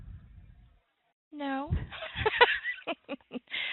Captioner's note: laughter